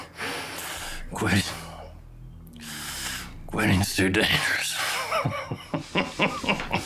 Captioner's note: laughs